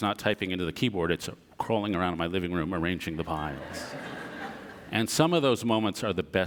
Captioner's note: audience laughter